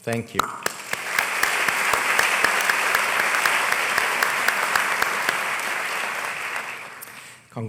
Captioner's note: applause